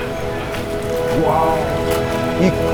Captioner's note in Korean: 감탄